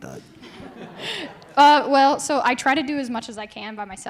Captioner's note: class laughing